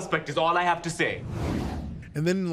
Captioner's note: air whooshing